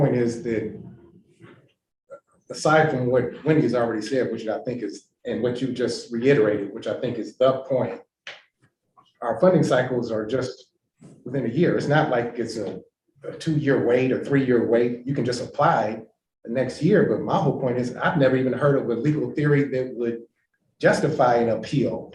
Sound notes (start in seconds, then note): none